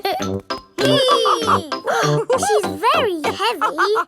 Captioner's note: both straining; giggles; madam gazelle laughing